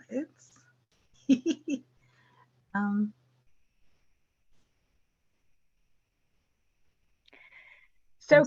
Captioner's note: laughs